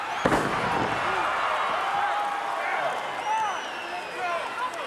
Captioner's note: audience cheering